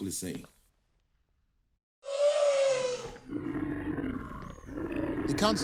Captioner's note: animals roaring